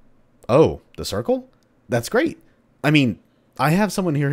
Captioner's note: intercom